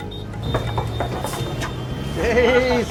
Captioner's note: door knocking